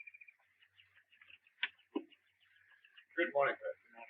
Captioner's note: birds chirping